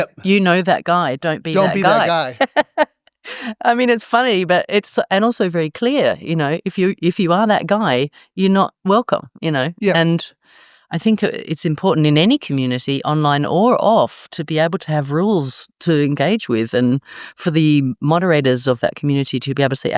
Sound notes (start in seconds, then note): 1.5 laugh